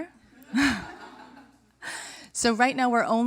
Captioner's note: laughter